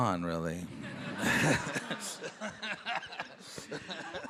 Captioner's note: all laughing